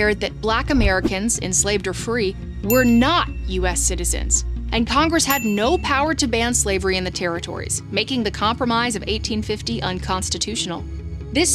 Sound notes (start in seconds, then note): 0.0 gavel thudding; 5.3 bell dings